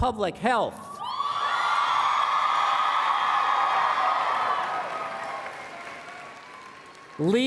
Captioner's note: applause